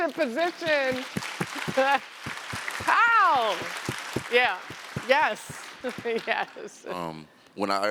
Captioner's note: applause